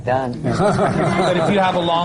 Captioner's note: laughter